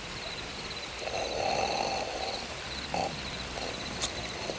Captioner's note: Bruto snores